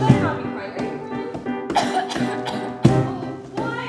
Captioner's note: coughs into the air